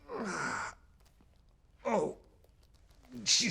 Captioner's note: man grunts